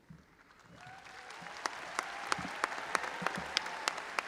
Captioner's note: audience applauding